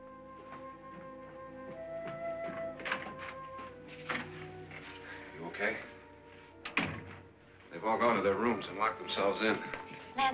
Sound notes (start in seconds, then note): 2.4 door opens; 6.6 door closes